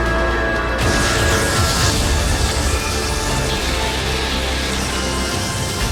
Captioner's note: electricity buzzing